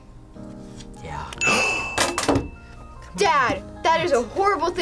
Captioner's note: React gasps